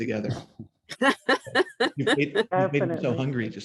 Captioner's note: laughs